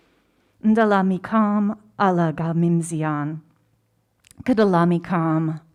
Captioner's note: speaking in foreign language